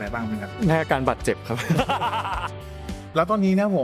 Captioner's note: laughs